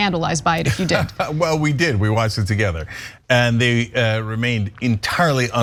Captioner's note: laugh